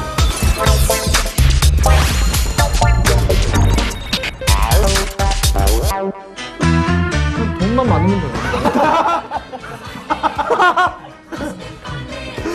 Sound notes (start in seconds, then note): 8.4 laugh